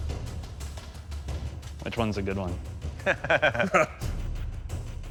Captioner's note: laughter